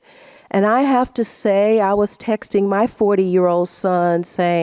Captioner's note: none